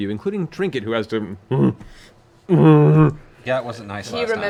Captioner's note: bear grunts